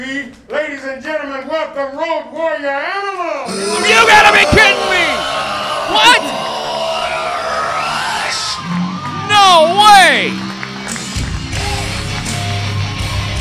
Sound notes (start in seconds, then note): 4.8 crowd cheering; 11.4 metal music